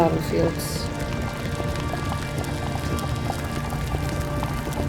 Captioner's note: lava bubbling